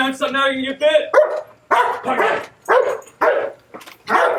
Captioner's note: barking